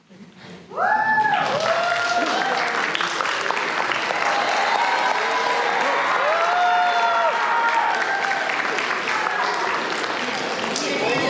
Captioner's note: applause